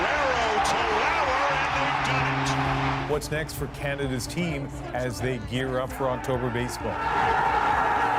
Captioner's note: cheers and Applause